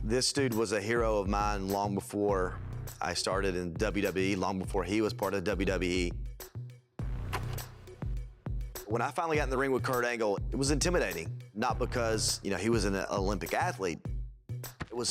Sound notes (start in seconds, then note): 7.6 film reel clicks; 7.6 light music